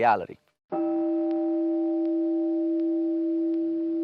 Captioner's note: meditation chime